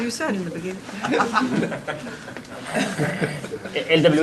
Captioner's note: laughter